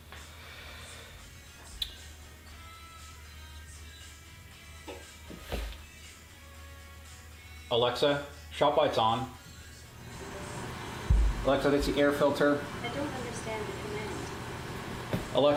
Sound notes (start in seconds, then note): 10.0 filter whooshing